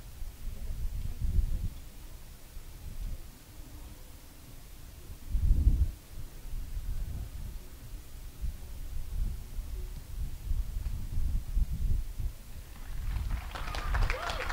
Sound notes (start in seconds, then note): 5.6 applause